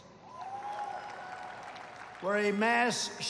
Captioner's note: applause